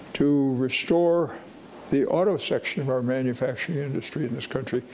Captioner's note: none